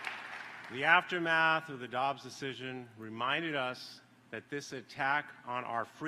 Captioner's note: applause